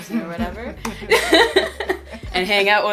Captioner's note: laughs